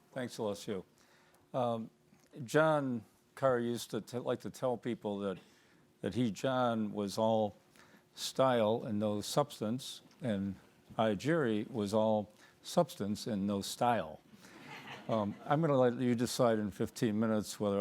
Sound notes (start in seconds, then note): 14.6 audience laughing